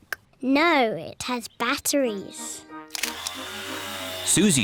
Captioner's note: whirring